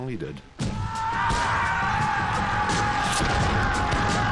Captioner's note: people shouting